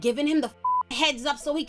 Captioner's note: beep